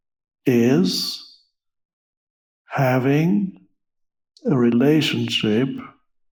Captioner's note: laughs